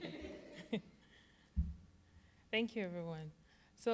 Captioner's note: audience laughing; chuckling